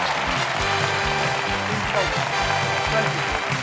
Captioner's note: cheers and applause